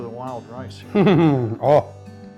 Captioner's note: laughs